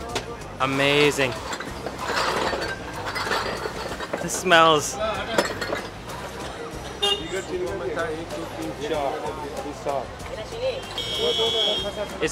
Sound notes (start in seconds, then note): 2.5 rattling; 8.6 speaking foreign language